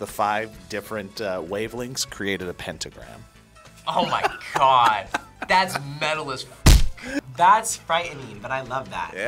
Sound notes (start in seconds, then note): 3.9 laughs